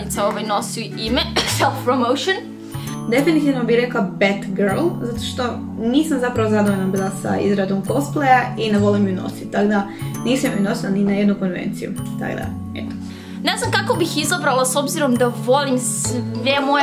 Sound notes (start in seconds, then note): 1.2 coughs